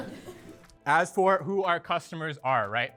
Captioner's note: audience laugh